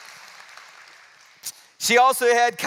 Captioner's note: applause